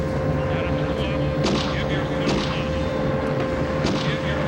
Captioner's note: gun fire